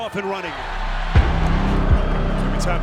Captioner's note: audience cheering; intense music